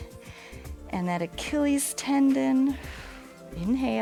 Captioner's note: exhales; inhales